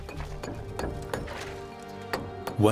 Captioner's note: chisel chinks against stone